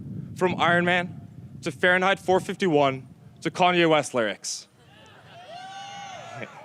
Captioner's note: audience cheers